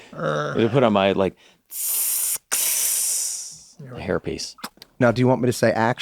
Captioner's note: makes sealing noise